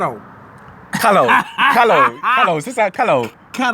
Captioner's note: laughing